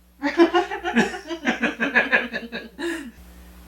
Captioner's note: both laughing